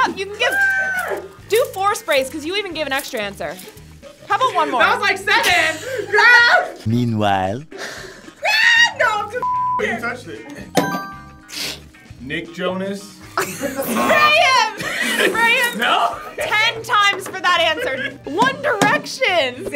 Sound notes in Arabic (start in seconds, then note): 7.1 تعليق صوتي; 9.6 صافرة